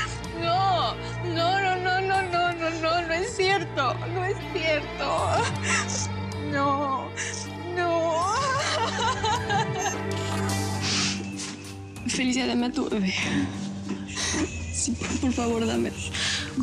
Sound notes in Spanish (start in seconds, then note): 6.8 sollozos